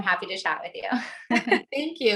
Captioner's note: giggling